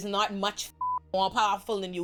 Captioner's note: beep